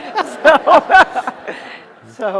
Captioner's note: laughter